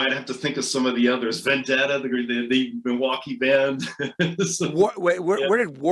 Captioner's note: laughs